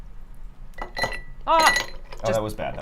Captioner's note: ice clinking